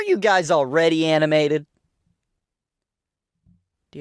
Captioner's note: awkward silence